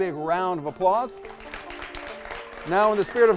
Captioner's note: audience applauds